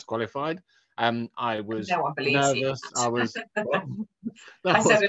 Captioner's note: laughs